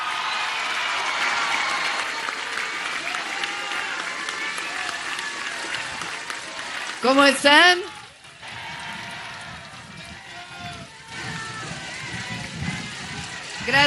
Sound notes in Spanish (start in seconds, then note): 3.1 aplausos